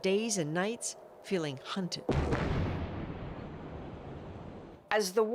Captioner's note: sirens